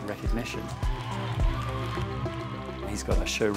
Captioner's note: applause